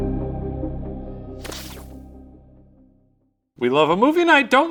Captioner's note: electrical buzzing